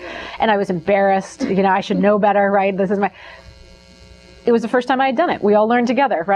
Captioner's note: laughs